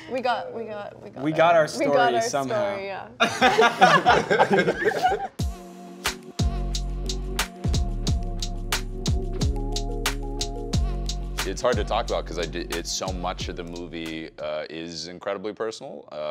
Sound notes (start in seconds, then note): 3.2 laughing; 5.3 chill music